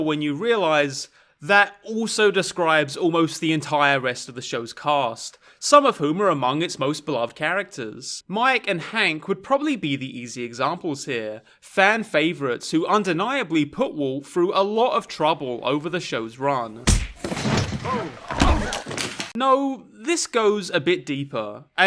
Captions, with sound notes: when you realize that also described almost the entire rest of the show's cast. Some of whom are amongst its most beloved of characters. Mike and Hank would probably be the easy examples here. Fan favorites who undeniably put Walt through a lot of trouble over the show's run. (fist punch) No, this goes a bit deeper.